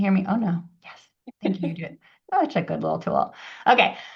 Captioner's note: laughs